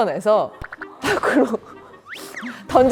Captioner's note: sobbing